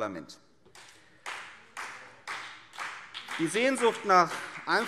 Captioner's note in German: Beifall CDU und BÜNDNIS 90/DIE GRÜNEN